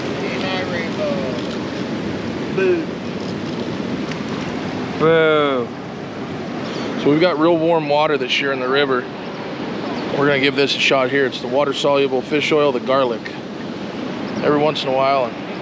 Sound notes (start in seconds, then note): 5.3 groaning